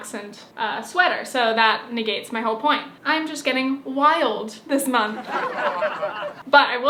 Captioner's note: laugh track